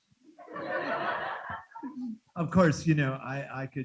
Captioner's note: students laughing